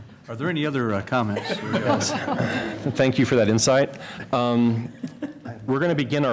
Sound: laughter

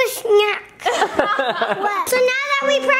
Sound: everyone laughing

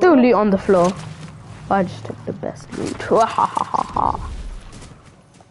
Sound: evil laugh

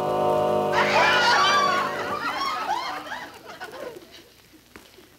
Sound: audience laughing

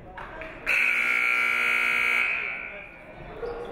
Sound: buzzer buzzes

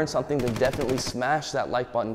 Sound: gunshots popping

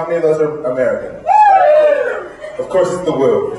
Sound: cheers

